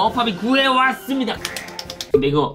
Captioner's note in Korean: 짝짝짝짝짝